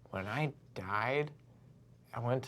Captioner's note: none